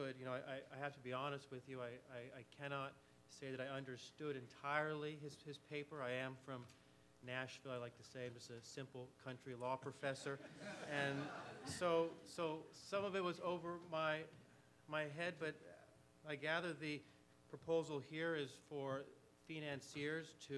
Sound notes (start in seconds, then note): 10.4 audience laughs